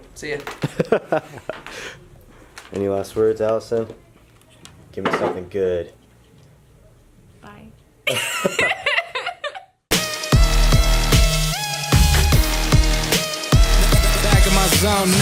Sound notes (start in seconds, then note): 0.6 laughter; 8.0 laughter; 9.9 rap music